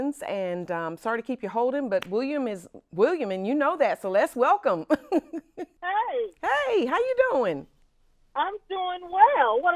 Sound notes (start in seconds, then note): 5.4 laughs